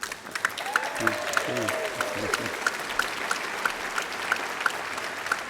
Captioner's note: applause